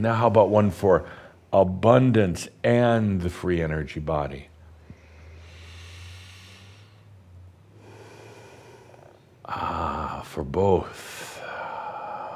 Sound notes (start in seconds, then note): 4.7 he takes another deep breath